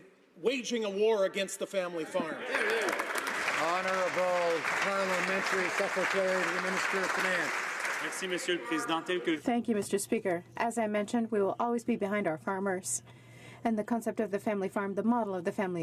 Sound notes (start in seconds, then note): 5.3 some Applause